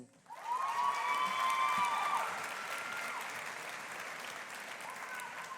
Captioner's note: audience applauding; audience cheering